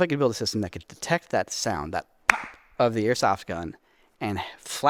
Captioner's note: claps